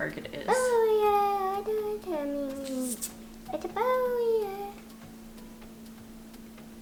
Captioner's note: vocalizes